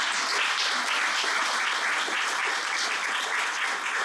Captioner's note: applause